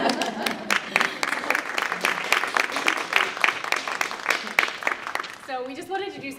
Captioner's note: applause